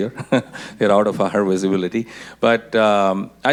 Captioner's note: laughs